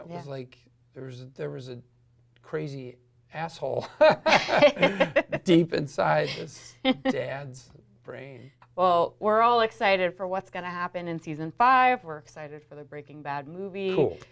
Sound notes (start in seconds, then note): 4.0 laughs loudly; 4.0 laughs